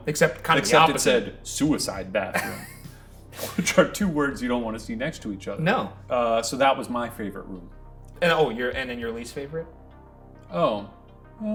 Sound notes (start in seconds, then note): 2.3 Ryan laughing; 3.3 chuckling